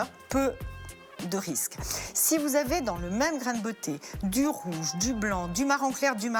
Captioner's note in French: grognement